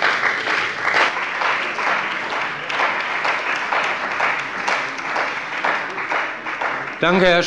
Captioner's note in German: Beifall bei der CDU und dem BÜNDNIS 90/DIE GRÜNEN